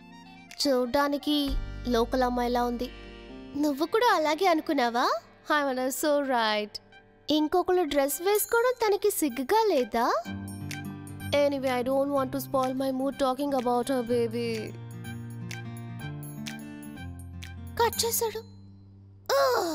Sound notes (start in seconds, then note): 15.2 mouthing